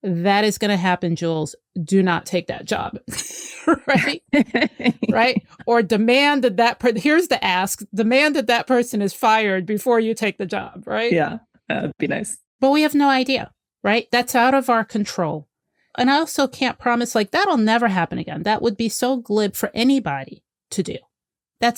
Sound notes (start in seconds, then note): 3.1 laughter